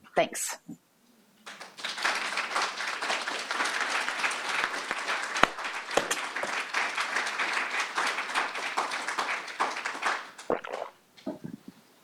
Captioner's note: applause